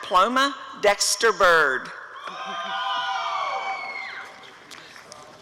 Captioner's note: applause and cheering